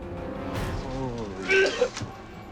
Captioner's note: vomiting